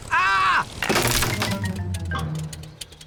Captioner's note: crunching